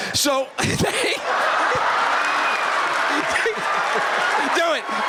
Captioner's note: laughter